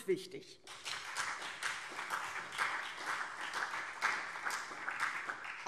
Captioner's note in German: Beifall CDU und BÜNDNIS 90/DIE GRÜNEN